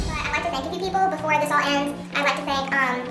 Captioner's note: sped up, high-pitch automated voice